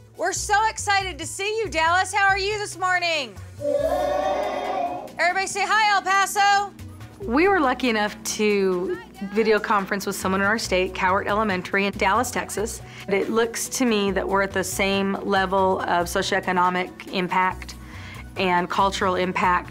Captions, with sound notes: >> We're so excited to see you, Dallas. How are you this morning? [ Sound of cheering ] Everybody say; Hi, El Paso! >> We were looking up to video conference with someone in our state, Cowart Elementary in Dallas, Texas. It looks to me that we're at the same level of socio-economic impact and cultural impact